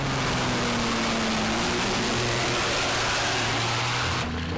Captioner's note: truck engine revving